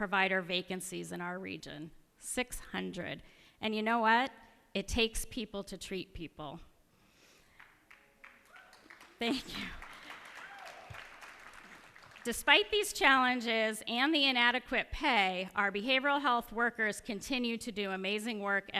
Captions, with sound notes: in our region -- 600. And you know what? It takes people to treat people. [ Applause ] Thank you. Despite these challenges and the inadequate pay, our behavioral health workers continue to do amazing work every day.